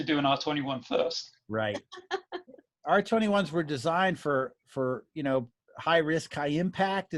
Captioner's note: laughing